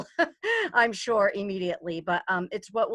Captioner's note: chuckles